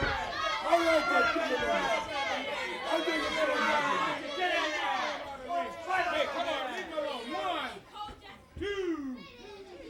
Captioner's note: crowd chatter